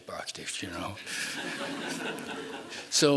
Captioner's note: laughing